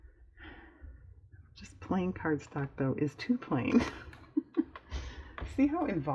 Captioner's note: laughs